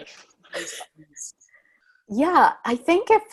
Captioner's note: laughs